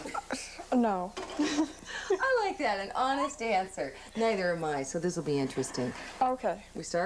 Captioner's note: laughing